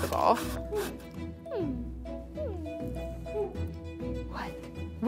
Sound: dog whining

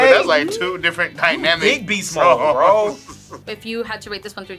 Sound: laughs

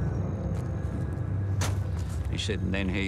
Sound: car door shuts

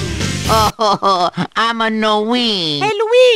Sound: sobbing

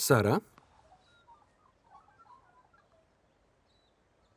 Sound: birds chirping

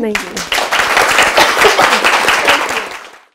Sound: applause

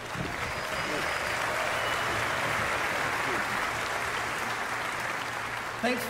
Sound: applause

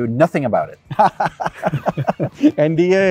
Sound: both laughing

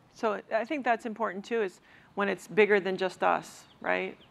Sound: none

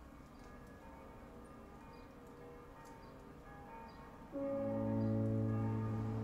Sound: bells ringing in the distance; piano music plays

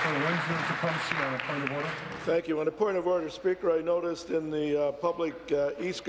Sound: applause

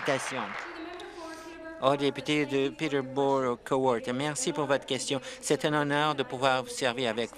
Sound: applause

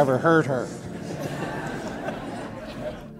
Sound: guests laugh

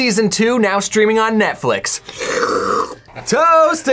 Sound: slurps

